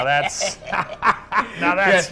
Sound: both laugh

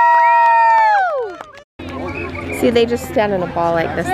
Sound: crowd cheering

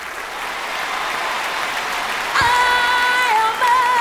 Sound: crowd applauding

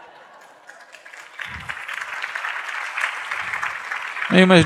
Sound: laughter, Clapping

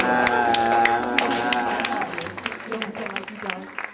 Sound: cheers and applause; applause

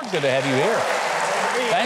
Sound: audience cheering

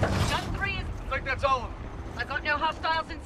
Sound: radio

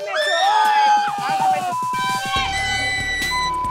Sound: beep; group yelling

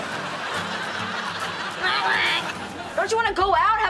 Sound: quacking

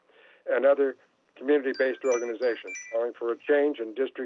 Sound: chime

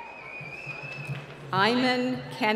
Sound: whistling

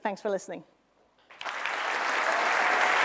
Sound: applause

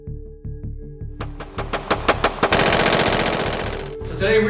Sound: soft bass music; rapid gunfire

